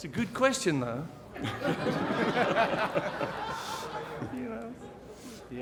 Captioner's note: laughter